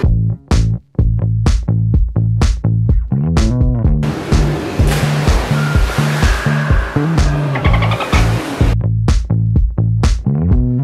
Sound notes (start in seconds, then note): 0.1 upbeat tempo playing; 4.0 water splashing; 6.9 upbeat tempo playing